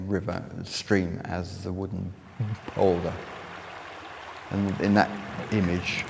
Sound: water flowing Sounds

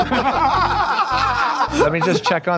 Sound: Tenderloins laughing

